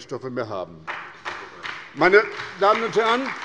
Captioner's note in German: Beifall bei der SPD und dem BÜNDNIS 90/DIE GRÜNEN